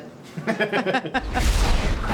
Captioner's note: both laugh